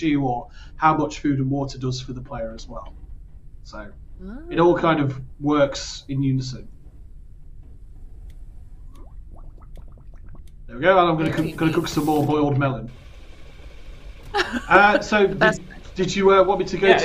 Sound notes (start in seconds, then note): 8.6 bubbling